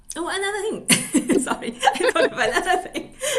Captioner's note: laughter